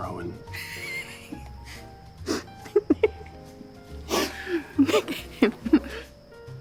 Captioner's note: laughing